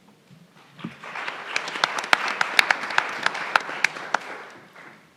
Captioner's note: everyone applauds